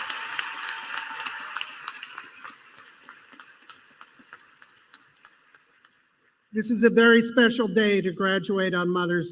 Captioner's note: applause